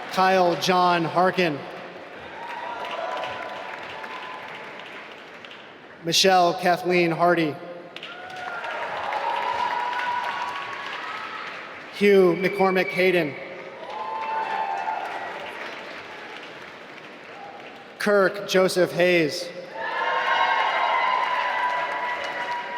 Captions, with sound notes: Kyle John Harkin (applause) Michelle Kathleen Hardy (applause) Hugh McCormick Hayden (applause) Kirk Joseph Hayes (applause)